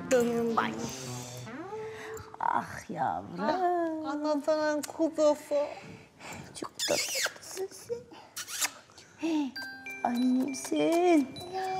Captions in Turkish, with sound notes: Ayy! Ah yavrum. Ah anasının kuzusu. Çok tatlı. (Öpücük sesi) Ay yerim seni!